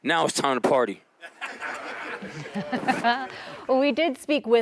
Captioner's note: laughter